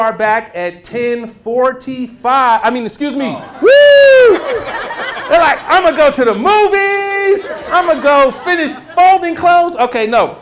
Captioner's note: laughter